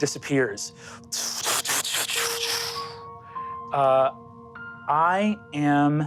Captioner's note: imitates magical blasts